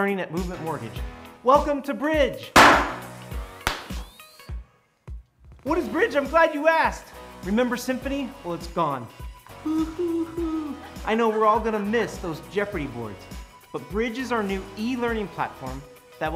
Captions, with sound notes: at movement mortgages. Welcome to Bridge. [pop] What is Bridge? I'm glad you asked. Remember Symphony, well it's gone [sobs] I know we're all going to miss those Geoffrey boards but Bridge is our new e-learning platform that